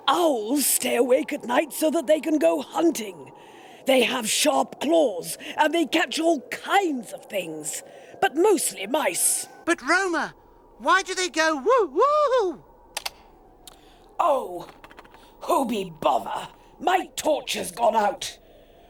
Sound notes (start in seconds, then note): 12.9 flashlight clicks